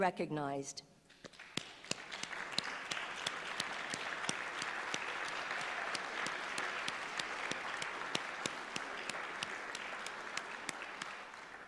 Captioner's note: applause